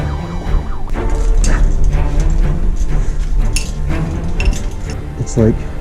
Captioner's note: intense music continues; metal clinking